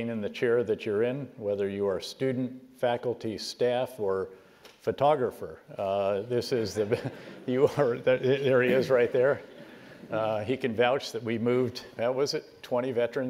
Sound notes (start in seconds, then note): 6.6 laugh